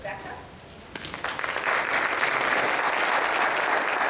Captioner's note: applause